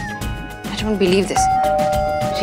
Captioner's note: Door bell